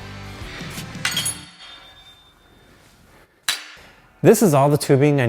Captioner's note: metal clangs